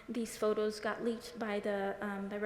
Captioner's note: none